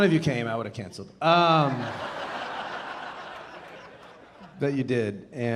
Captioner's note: audience laughing